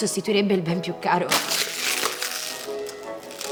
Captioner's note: bottle crumpling